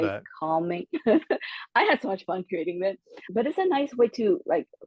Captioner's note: laugh